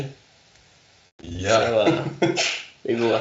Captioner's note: chuckling